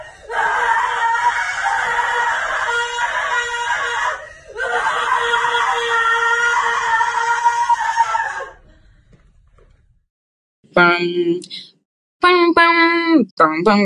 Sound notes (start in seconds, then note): 0.0 screaming; 10.7 humming